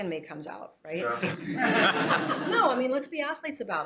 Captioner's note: laughter